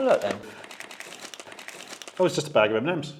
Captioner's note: pack rustles